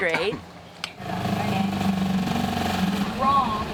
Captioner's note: motor sound